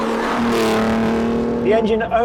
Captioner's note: engine revs